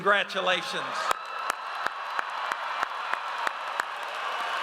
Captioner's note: audience cheers